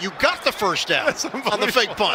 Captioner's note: laughter